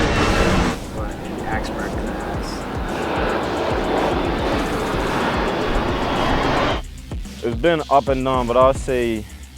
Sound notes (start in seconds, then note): 0.0 airplane flying over